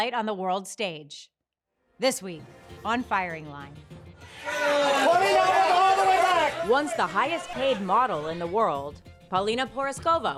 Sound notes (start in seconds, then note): 4.2 crowd shouting